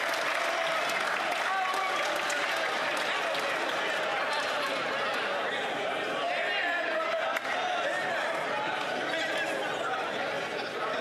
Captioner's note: some Applause